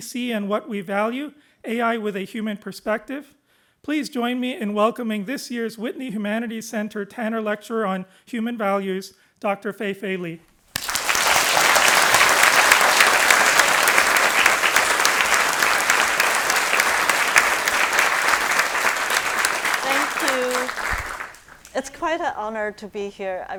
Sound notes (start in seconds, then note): 10.8 audience applauding